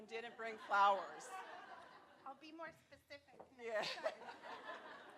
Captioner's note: laughter